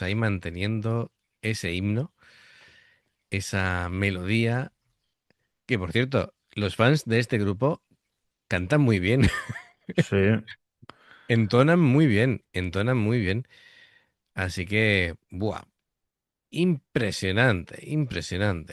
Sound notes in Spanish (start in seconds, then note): 9.2 risas